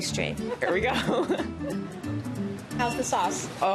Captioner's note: laughs